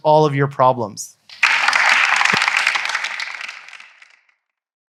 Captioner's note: audience applauding